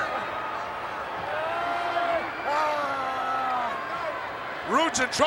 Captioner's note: wrestler groaning